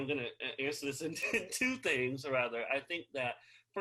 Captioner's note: chuckles